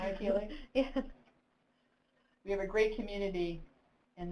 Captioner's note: laughing